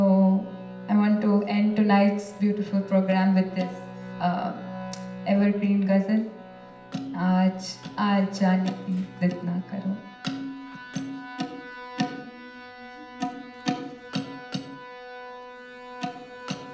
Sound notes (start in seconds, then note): 6.3 non-english speech